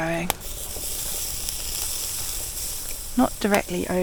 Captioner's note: sizzle